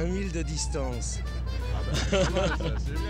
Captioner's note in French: rires